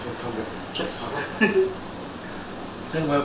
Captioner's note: laughs